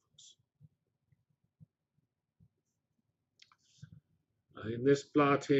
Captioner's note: pause